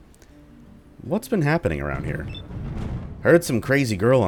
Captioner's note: thunder